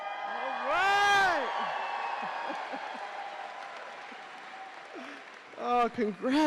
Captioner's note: audience cheering